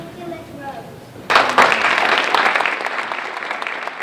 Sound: applause

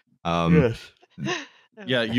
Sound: yawns

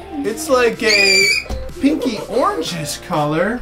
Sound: shrieks

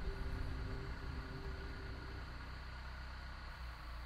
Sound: engine rumbles

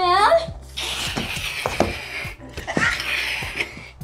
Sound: hisses

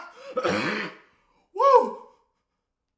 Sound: laughs; coughs

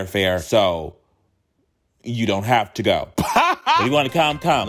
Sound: laughing

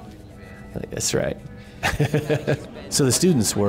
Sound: laughs

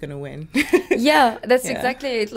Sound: laughter

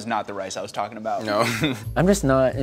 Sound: chuckles

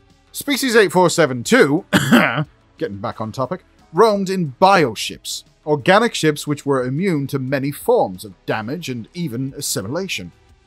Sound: cough

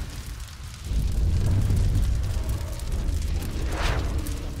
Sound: the fire roars

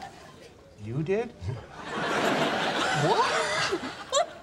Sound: audience laughing; audience laughing

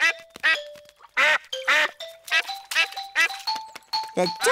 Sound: ducklings quack; ducks and ducklings quack

